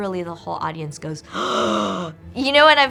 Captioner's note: gasps